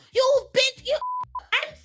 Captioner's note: beeping